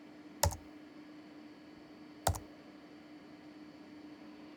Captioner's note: buttons typing